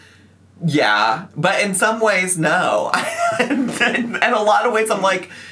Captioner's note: laughs